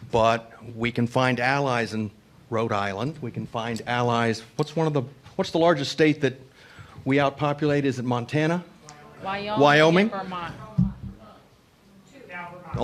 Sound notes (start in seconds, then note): none